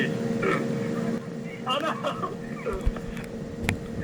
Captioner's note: laughing